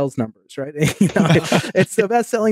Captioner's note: laughing